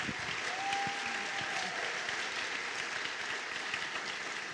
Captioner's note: applause